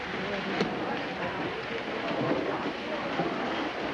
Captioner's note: women chatting